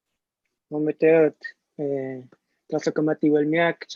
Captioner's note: non-english speech